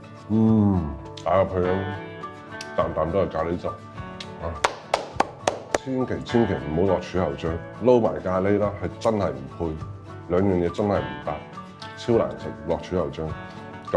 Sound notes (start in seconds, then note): 4.6 applause